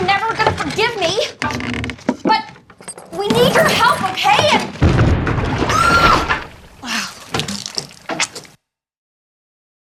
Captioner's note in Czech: divná exploze, Laura křičí a ... roztéká se?